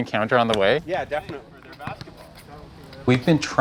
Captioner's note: basketball dribbles